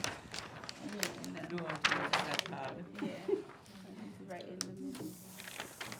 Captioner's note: group laughs; students chattering faintly